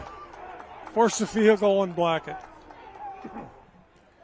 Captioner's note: applause